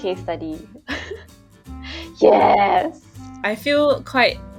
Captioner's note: laughs